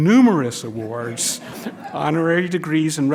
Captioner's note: laughter